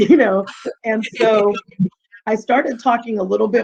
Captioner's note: chuckling